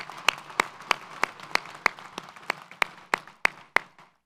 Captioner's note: audience applauds